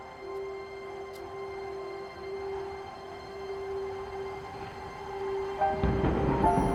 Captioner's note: light piano music; wind whooshes